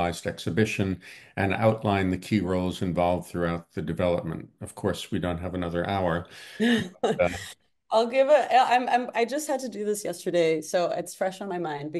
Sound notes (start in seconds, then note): 6.4 laughs